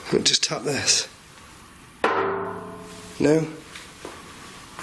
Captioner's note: loud clanging; soft clanging